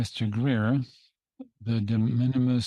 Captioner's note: speaking in French